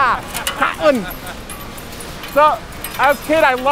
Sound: laughing

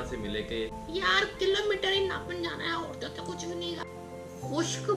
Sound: mimicking an irritating voice

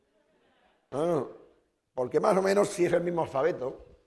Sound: speaking spanish

